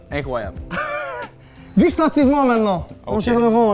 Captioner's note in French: rire